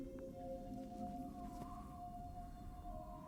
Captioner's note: none